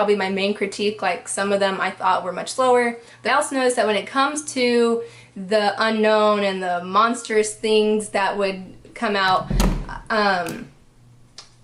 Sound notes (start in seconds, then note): 8.4 door slams